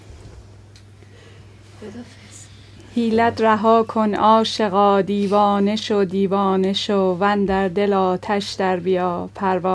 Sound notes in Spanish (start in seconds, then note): 3.3 Amiga lee el poema en Farsi